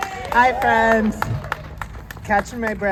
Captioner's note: applause